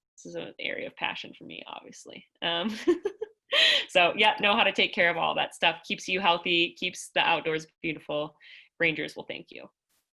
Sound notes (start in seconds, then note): 2.6 laughter